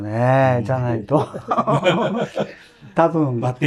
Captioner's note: laughs